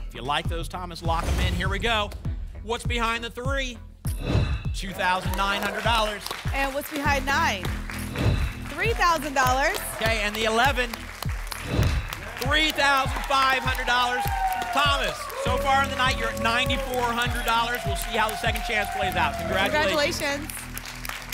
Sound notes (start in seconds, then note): 4.1 whoosh; 8.1 whoosh; 11.6 whoosh; 21.0 applause and cheering